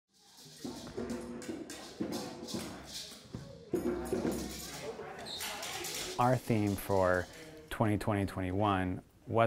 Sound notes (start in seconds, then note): 0.5 percussion music begins; 3.9 students murmuring